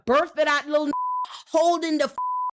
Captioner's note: beep